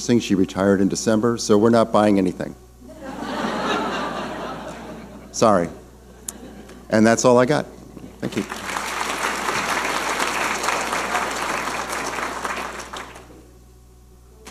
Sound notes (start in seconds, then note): 2.8 audience laughing; 8.2 audience applauding